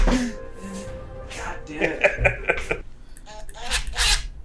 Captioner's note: laughs